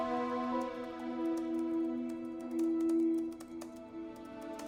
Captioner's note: soft piano music; keyboard clacking